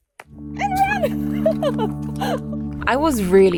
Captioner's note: laughs